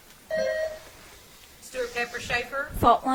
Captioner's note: bell ringing